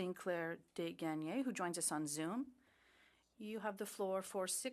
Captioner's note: speaking French